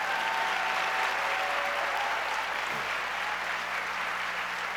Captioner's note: audience cheers and applauds